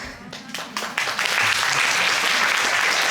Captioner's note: audience applauding